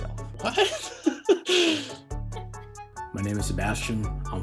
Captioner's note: laughs